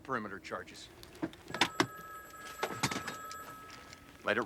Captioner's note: phone rings